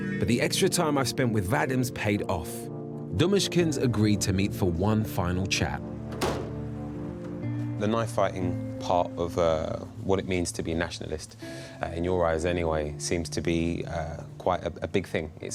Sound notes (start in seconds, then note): 6.0 door slamming